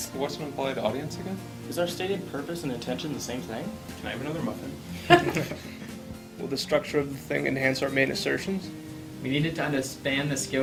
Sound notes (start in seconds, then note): 5.0 laughter